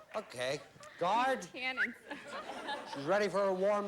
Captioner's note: whistles